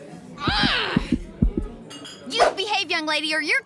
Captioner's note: screaming